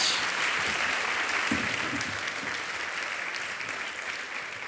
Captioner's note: audience applauding